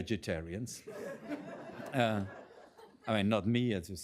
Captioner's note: laughter